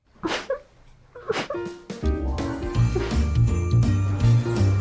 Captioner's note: whimpering